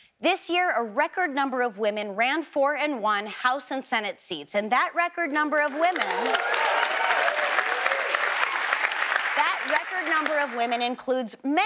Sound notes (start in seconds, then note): 5.9 audience cheers